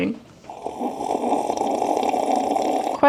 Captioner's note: slurping